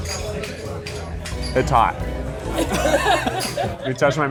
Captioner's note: laugh